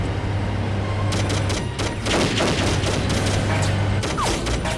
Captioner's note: gunfire clattering